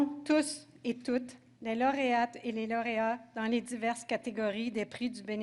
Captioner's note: speaking French